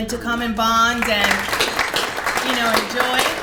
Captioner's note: applause